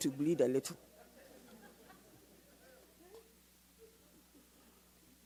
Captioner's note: audience laughs